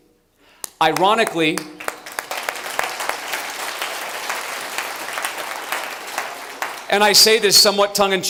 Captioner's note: applause